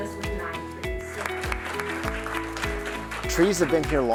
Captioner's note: audience clapping